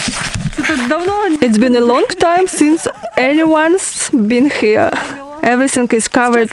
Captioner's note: laugh